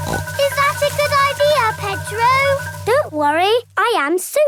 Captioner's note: snorts